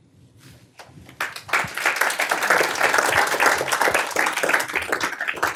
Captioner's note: applause